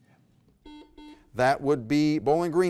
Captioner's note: buzzer buzzes